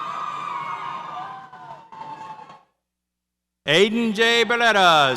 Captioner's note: audience cheers